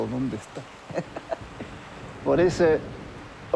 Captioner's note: laughs